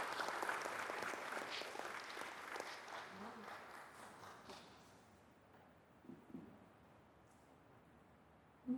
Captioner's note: applause